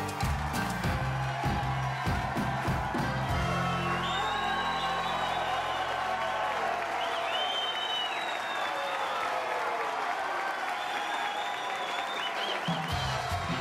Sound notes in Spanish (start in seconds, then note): 4.2 silbidos y aclamaciones; 7.5 aplausos